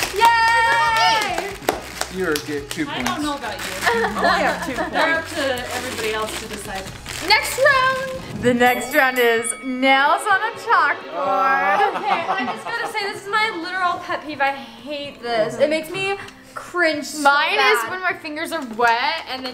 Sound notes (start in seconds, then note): 3.8 laughing; 8.6 fight bell